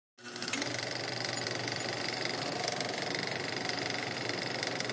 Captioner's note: film projector whirring